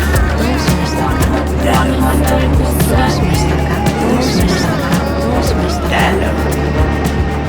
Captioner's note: intense music; voices whispering